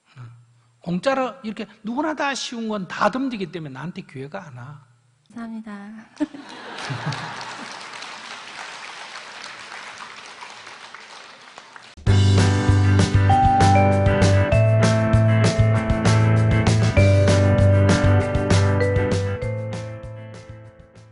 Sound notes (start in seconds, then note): 8.9 audience Laughter/Applause